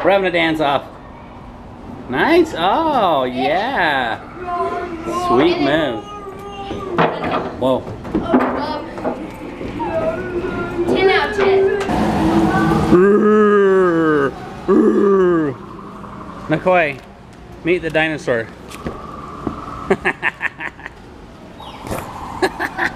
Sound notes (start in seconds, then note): 12.8 roaring; 19.8 chuckling